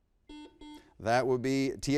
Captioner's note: buzzer beeps